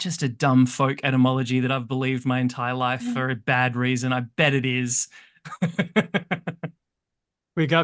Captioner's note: laughs